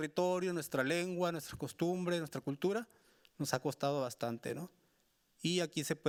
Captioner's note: speaking Spanish continues